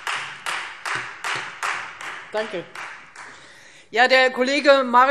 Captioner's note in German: Beifall Freie Demokraten